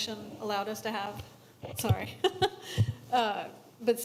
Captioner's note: chuckles